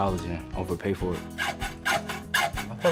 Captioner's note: sawing noise